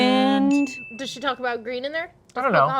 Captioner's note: bell dings